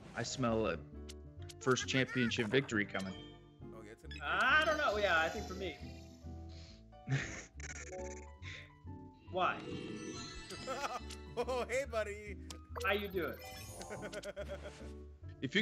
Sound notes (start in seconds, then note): 10.5 laugh